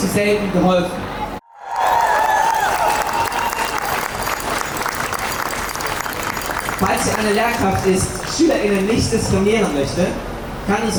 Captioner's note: applause